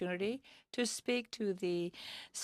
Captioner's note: speaking French